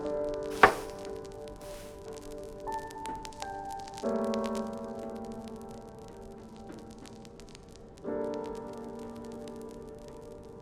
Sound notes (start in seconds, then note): 0.5 glass thuds; 3.4 soft music; 5.6 fire crackling